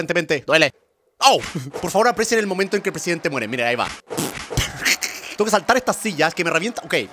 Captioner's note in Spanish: risa